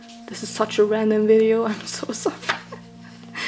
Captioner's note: laughs